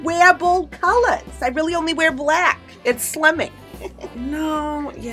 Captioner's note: laughs